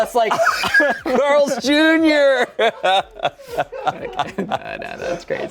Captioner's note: laughs